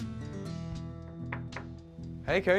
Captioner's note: knocking